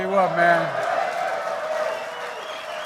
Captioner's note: applause